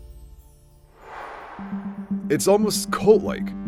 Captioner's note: line swooshing